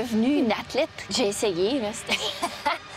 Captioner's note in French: rire